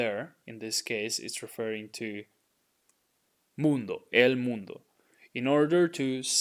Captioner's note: speaking in Spanish; speaking in Spanish